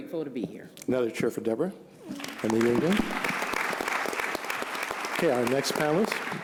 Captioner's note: applause